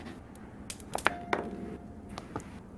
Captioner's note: die roll